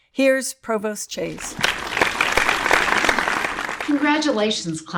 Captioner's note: audience applauds